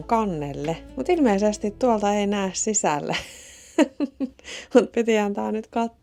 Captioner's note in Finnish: naurua